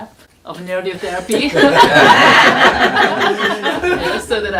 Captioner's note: everyone laughs